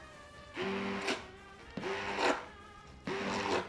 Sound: whirring

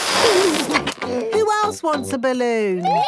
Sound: George giggles

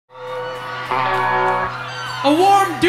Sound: audience cheering

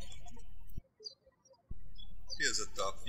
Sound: birds chirping

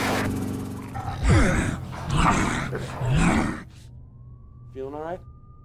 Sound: zombies groaning

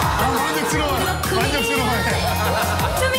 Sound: laugh

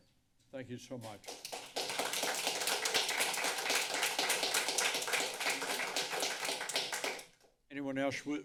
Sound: applause

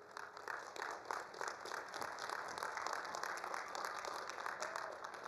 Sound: attendees applauding

